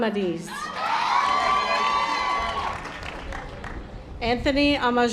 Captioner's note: audience applause